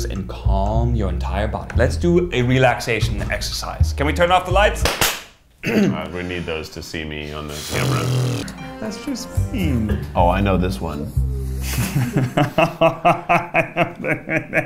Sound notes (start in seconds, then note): 4.8 clapping; 5.6 clears throat; 11.6 laughing